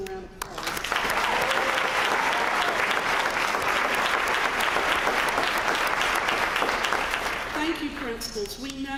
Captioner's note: applause